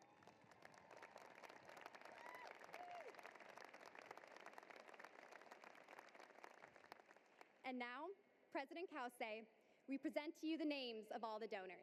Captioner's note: applause